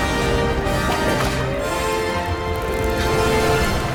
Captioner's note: theme music continues; whip cracks